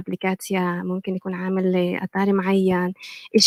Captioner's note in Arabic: لغة أجنبية; لغة أجنبية